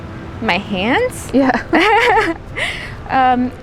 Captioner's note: chuckles; giggles